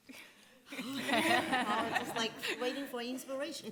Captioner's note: laughter